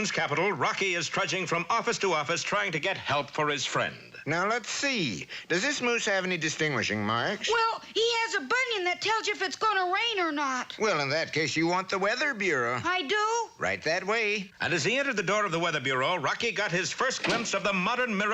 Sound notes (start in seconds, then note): none